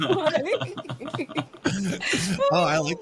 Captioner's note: laughing